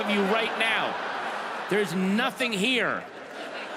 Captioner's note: audience laughs